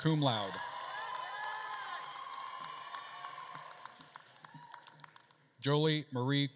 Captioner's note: attendees cheering and applauding